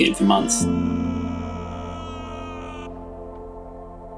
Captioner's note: man screaming